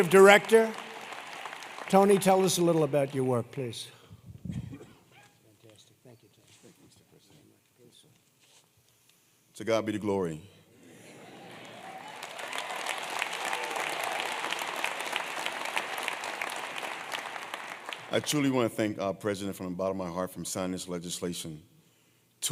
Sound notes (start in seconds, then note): 11.4 applause